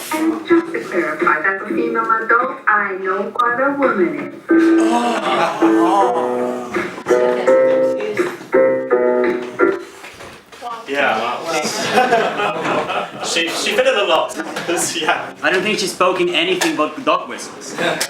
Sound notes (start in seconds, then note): 4.5 audience gasp; 11.6 laughs